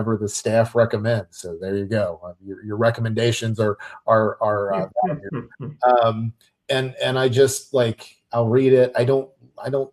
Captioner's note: chuckles